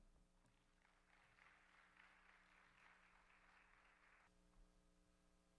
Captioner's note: audience applauds